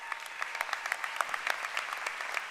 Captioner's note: applause